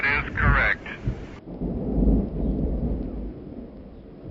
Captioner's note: wind whips